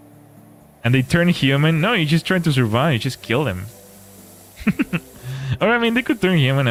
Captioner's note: laughter